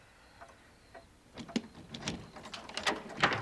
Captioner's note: door opens